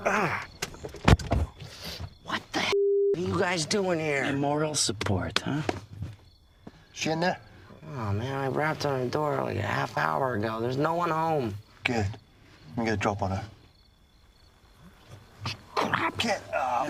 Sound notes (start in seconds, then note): 0.7 car door shuts